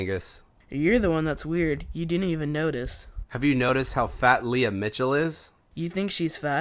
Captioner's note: none